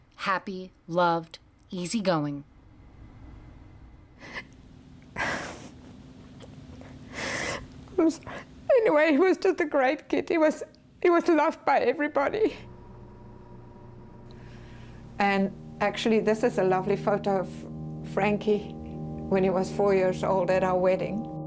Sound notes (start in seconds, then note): 5.2 crying